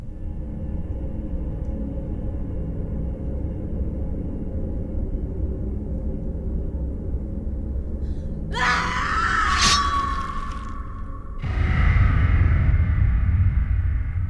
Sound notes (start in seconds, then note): 0.2 light dramatic music; 8.5 Kali screams; 11.5 dramatic music